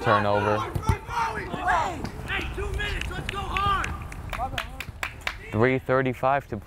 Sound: players talking and yelling

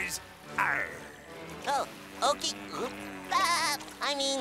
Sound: laughing

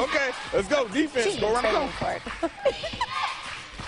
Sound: laughter

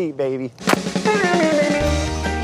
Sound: punching sound

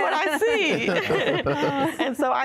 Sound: laughter

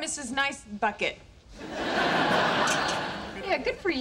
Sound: audience laughing

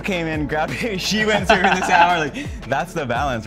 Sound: both laughing

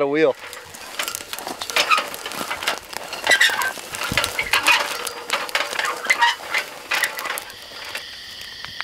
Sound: cart creeking

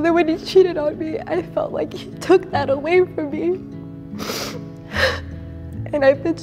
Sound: sniffling

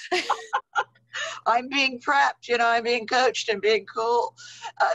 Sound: laughs

